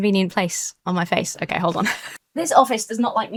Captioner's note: chuckles